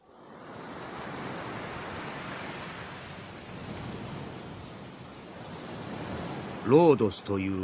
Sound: SFX: ocean waves

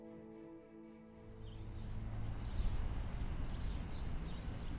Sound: birds chirp

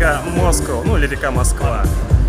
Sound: sounds in russian

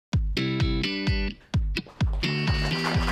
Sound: applause

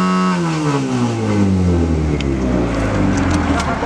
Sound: buzz; blower shuts off

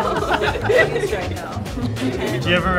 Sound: laughter

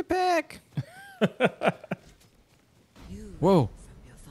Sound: laughing

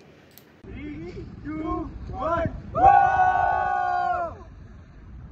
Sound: cheer

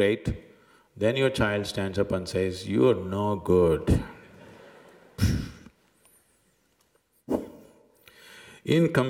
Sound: laughs

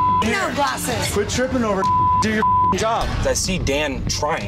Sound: beep

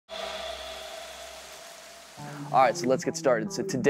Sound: water splashing; gongs banging

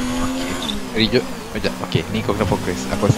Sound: stutter

